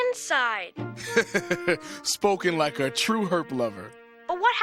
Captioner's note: laughs